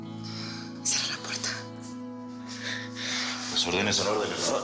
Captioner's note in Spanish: Susurra